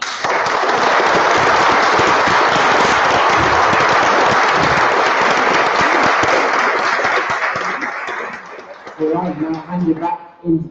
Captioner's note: applause